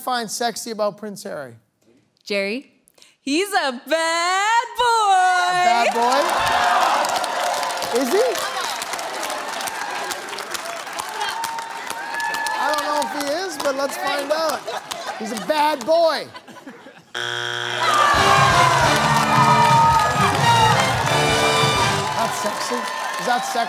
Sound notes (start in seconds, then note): 8.9 cheering; 17.1 buzzer sounds; 17.5 cheering/applause